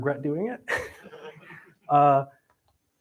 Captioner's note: laughter